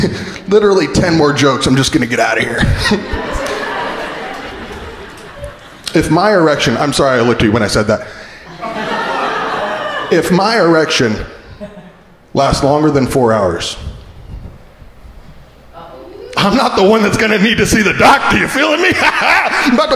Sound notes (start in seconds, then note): 2.3 crowd laughing